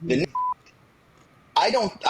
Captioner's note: beep